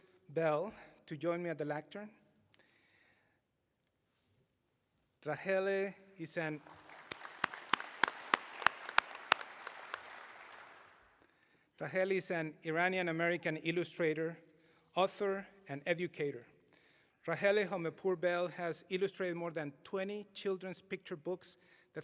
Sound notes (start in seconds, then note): 9.8 applause